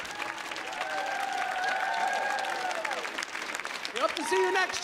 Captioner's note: clapping and cheering continues